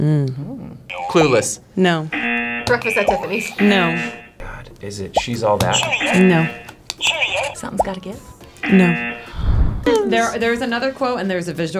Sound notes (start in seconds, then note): 2.1 buzzer razzing; 5.6 graphic popping; 5.8 buzzer razzing; 8.6 buzzer; 8.6 buzzer razzing